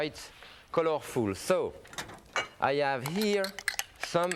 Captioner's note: glass tinkling